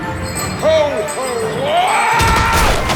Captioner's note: yelling